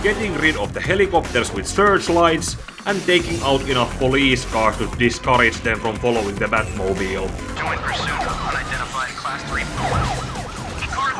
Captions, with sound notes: Getting rid of the helicopters with search lights and taking out enough police cars to discourage them from following the Batmobile; [Police radio chatter]